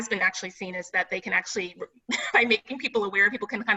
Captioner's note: laughs